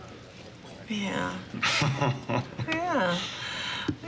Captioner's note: laughs